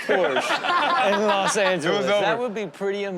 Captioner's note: audience laughs